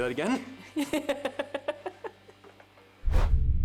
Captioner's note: laughing